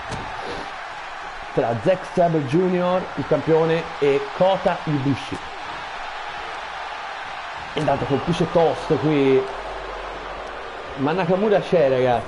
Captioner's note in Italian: Applauso